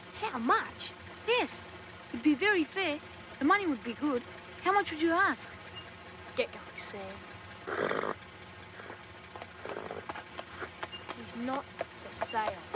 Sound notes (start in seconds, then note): 7.7 Sam snorts